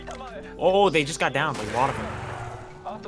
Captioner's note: echo